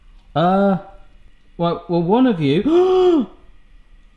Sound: gasps

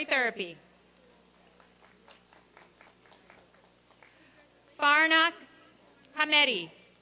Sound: applause and cheering

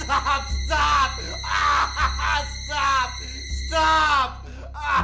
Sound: cries out

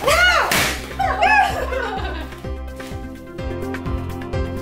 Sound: both exclaiming

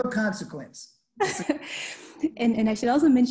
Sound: laughing

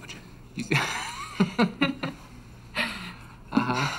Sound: Luke and Nancy laugh

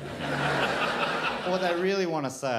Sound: crowd laughs

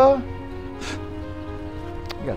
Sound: scoff

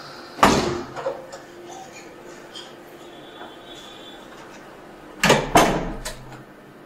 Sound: sounds of doors closing

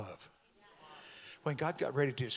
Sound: congregation amens

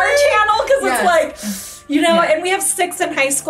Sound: teeth sucking

